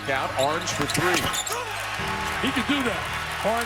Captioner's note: crowd cheering